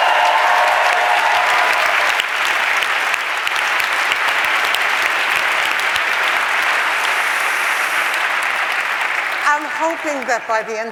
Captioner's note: applause